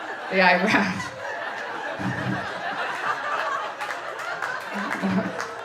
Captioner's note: audience laughing